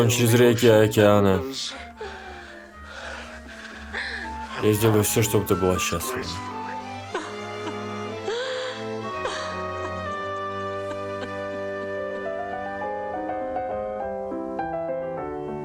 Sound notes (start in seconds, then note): 6.5 sighs; 10.9 sobbing